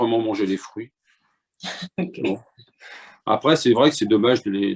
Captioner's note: laughter